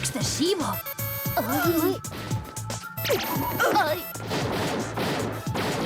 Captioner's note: phone ringing